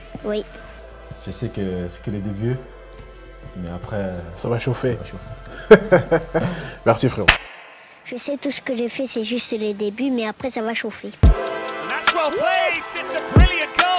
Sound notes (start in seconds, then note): 5.5 laughs